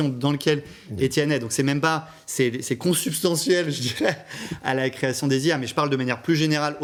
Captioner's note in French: rires